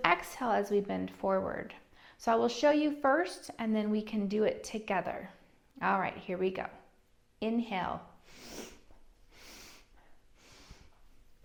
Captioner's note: 3 breaths in and one exhale